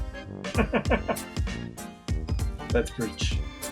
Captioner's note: chuckles